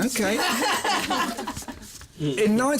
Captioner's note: laughs